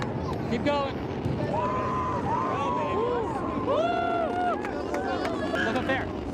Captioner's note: hooting and cheering